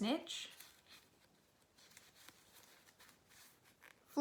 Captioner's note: sifting through cards